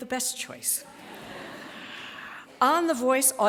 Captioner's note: laughter